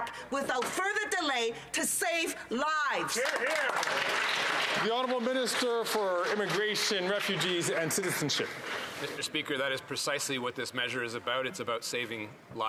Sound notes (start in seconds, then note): 9.5 some Applause